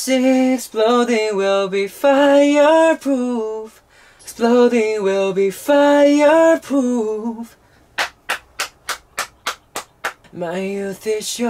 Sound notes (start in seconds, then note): 8.0 applause